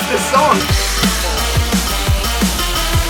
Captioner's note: hit sounds synced with music